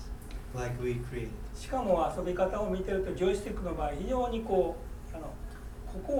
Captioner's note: speaking in foreign language